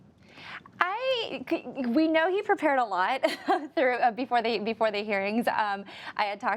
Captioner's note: laughs